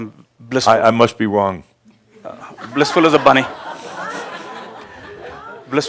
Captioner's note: some laughter as he makes a face